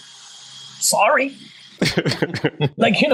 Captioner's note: laugh